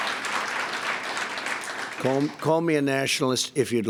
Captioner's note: applause